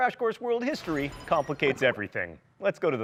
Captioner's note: beeping